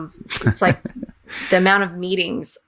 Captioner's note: laughing